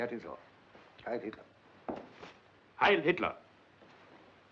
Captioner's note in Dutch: klikt met hakken